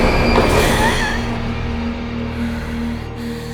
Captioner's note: gasping